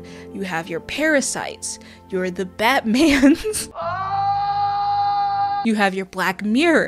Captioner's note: aahhh!